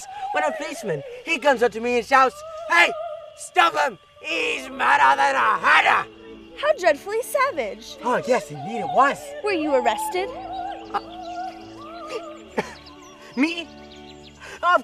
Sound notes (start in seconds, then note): 12.5 laughs